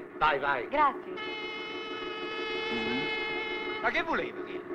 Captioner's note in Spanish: sirena del barco